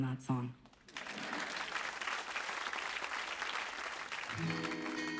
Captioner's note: clapping